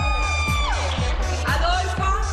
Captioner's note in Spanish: aplausos